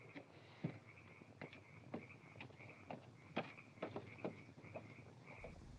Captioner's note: footsteps up stairs